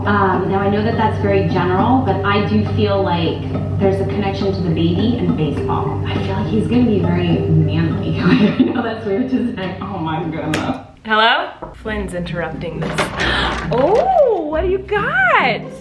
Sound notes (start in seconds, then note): 8.1 laughs